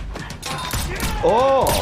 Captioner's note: woman yelling; silenced gun firing